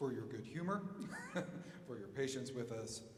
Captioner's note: chuckling